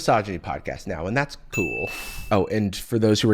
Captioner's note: ding!